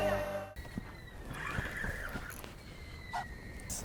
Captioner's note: drag screams